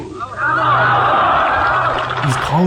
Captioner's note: crowd cheering